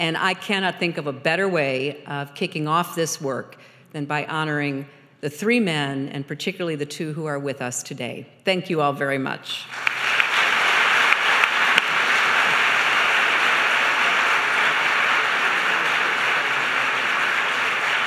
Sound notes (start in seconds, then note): 10.7 applause